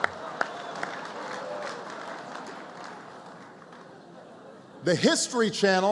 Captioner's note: laughter